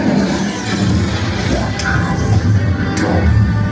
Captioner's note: futuristic sound effects; deep Voice